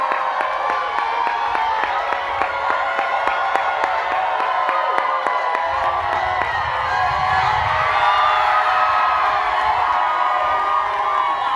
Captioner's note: cheers and applause